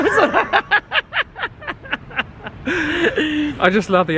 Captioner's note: laughing